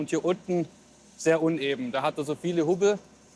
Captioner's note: none